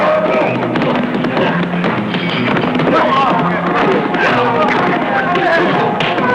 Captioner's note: whacking; crying out